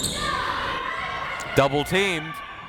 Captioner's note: crowd members shouting